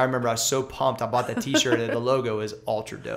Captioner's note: laughter